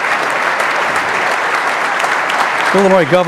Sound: applause

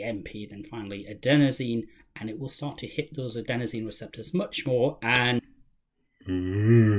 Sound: yawn

